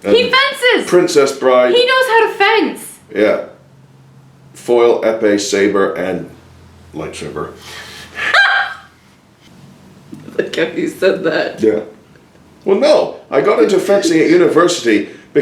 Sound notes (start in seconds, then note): 8.1 laughs